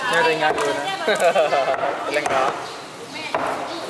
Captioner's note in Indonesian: ketawa